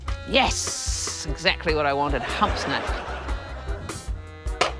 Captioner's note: laughter